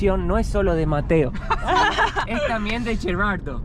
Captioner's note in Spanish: Risas